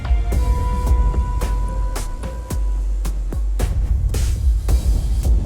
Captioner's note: slow rhythmic music; insect buzzing